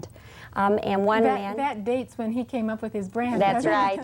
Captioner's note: laugh